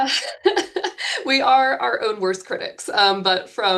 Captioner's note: laughing